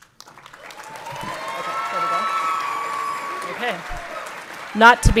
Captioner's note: everyone clapping and cheering